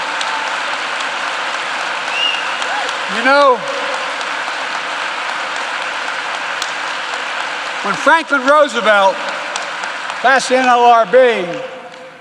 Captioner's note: applause